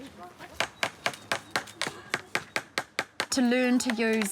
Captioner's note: children exclaim; hammer bangs